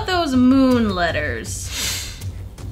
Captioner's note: sniffs irritably